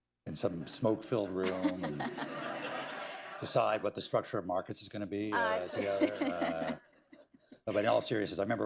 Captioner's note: laughter; laughter